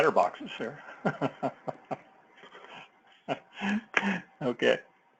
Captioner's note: laugh